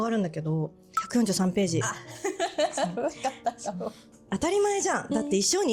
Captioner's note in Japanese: 笑い